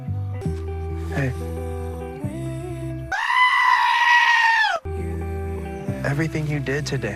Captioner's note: screaming goat